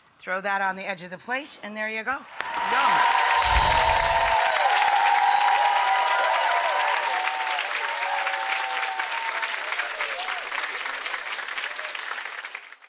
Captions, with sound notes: Throw that on the edge of your plate and there you go. (audience cheering) (chimes tinkling) (chimes tinkling)